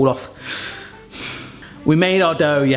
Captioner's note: frustrated sigh